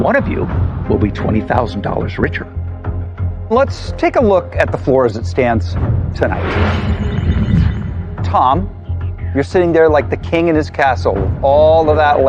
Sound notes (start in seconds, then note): 6.6 beeping sound effect